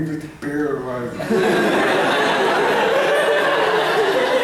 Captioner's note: laughter